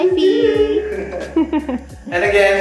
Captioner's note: chuckles